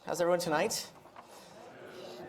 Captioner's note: audience murmurs